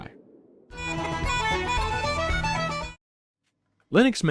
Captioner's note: irish noises